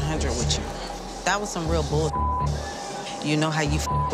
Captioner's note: beep; beep